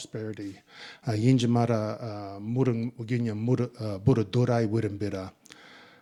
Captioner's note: speaking in Ngunnawal